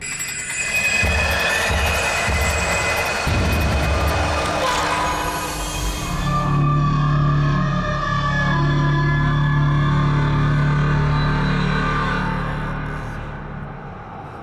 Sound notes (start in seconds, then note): 0.1 sudden screeching music; 4.4 monster wailing; 8.1 soft eerie music